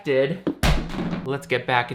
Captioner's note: phone thumps